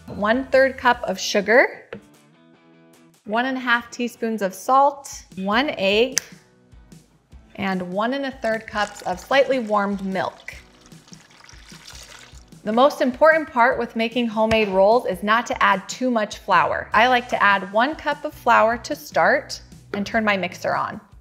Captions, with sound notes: 1/3 cup of sugar, 1 1/2 teaspoons of salt, one egg, and 1 1/3 cups of slightly warmed milk. (milk pouring) The most important part with making homemade rolls is not to add too much flour. I like to add one cup of flour to start and turn my mixer on.